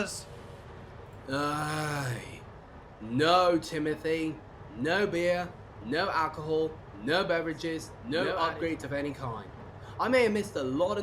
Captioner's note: groans